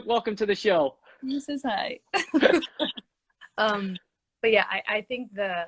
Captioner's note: both laughing